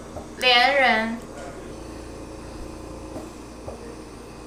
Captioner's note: grandma speaking Chinese; speaking Chinese